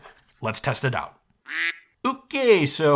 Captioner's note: duck quacks